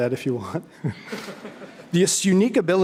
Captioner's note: audience chuckling